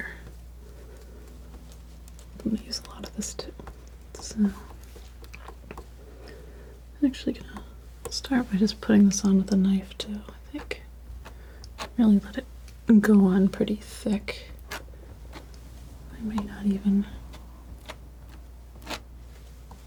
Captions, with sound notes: I'm gonna use a lot of this too I'm actually gonna start by just putting this on with a knife too, I think I'm gonna let it go on pretty thick I may not even (scratching)